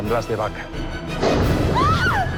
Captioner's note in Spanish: Estruendo; Gritos